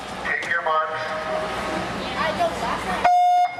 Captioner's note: buzzer